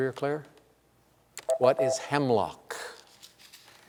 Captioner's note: beep